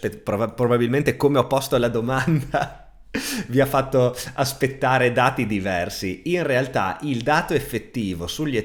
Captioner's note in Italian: risate